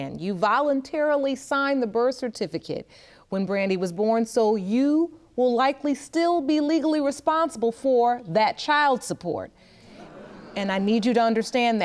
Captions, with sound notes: you voluntarily signed the birth certificate when Brandy was born, so you will likely still be legally responsible for that child support. (AUDIENCE MURMURS) And I need you to understand that.